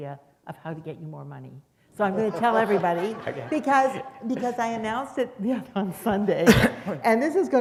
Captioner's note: laughter